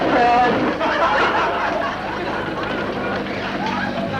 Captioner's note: audience laughter